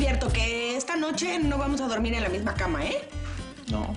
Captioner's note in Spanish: none